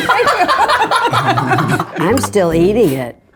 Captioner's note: laughs